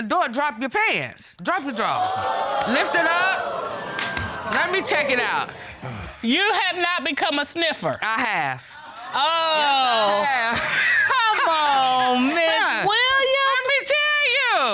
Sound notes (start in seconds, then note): 1.6 audience exclaims